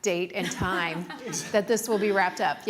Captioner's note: laughing